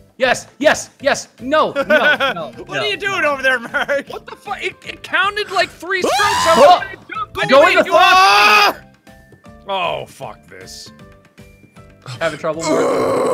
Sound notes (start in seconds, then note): 6.0 screaming; 6.1 trails off into distance in rage